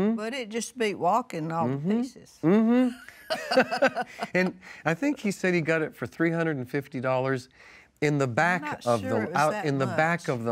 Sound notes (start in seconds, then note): 2.8 both Laugh